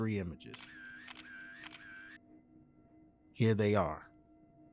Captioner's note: camera clicking